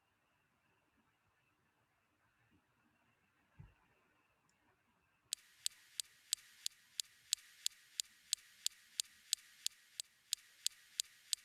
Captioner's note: sounds like a gas stovetop spark igniter...tic-tic-tic